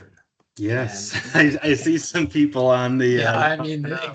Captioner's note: laughing